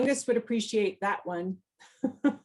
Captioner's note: laughs